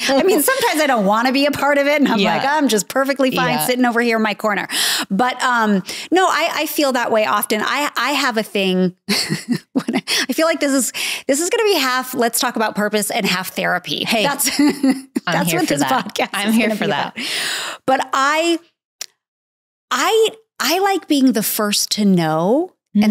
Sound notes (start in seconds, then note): 9.1 chuckles; 14.2 Candace laughing